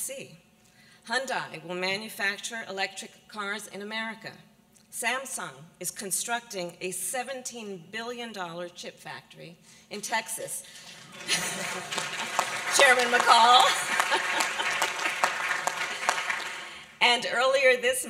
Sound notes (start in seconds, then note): 10.8 applause